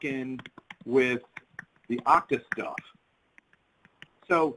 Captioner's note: keyboard clatters